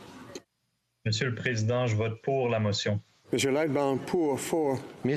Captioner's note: speaking FRENCH